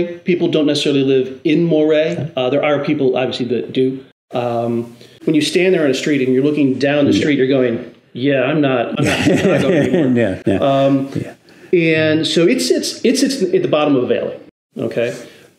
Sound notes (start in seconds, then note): 8.9 laughs